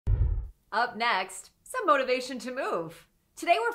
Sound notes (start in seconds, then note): 0.0 logo whooshing